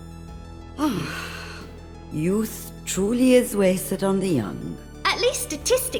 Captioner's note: sighs